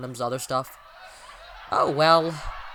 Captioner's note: breathes in deeply